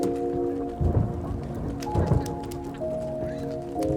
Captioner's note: thunder rumbling